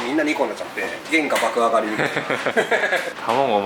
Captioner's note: laughs